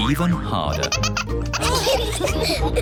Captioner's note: all laugh